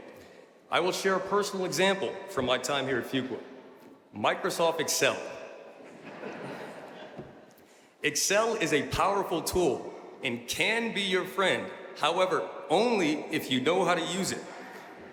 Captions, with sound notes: I will share a personal example from my time here at Fuqua. Microsoft Excel. (audience laughing) Excel is a powerful tool and can be your friend, however, only if you know how to use it.